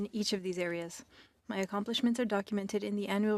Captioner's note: speaking French